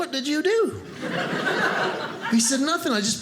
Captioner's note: audience laughing